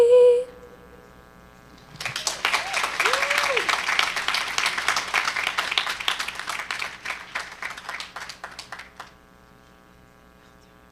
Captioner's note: applause and cheering